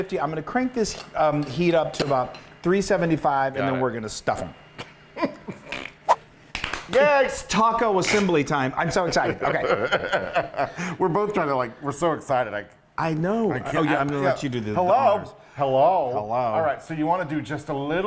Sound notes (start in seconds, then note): 5.2 guys chuckling; 6.5 men clapping; 10.4 laughing